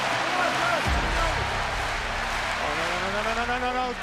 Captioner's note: audience cheers and applauds